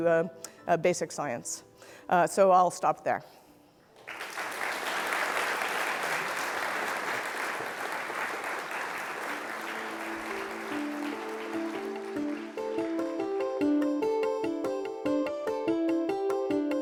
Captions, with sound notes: to basic science. So I'll stop there. (audience applauding) (upbeat music)